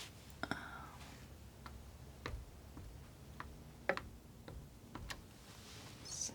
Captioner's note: scratching